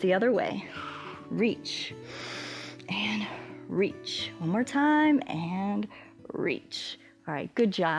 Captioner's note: exhales; inhales